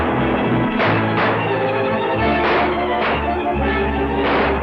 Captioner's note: guns fire repeatedly